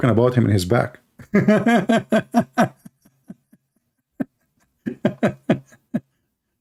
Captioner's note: Ketawa